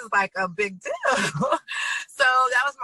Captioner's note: laughs